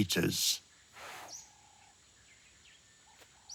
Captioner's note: cheetah hissing